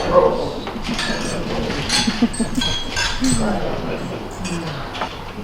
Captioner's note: glasses clinking